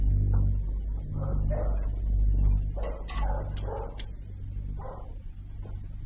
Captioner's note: mason barking